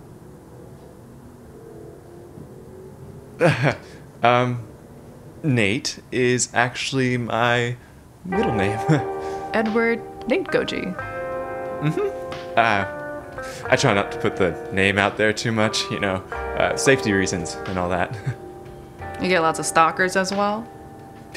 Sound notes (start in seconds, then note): 3.4 chuckles